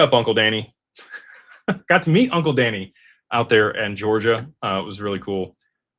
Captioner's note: laughter